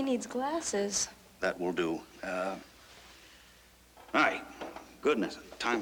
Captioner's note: none